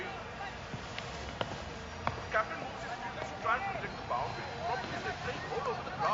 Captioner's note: announcers muttering